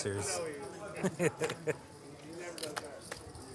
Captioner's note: laughs